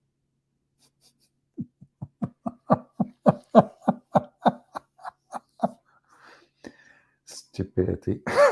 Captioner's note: Ketawa